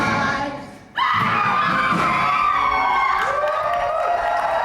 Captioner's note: screaming; audience cheering